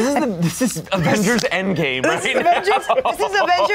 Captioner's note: laughs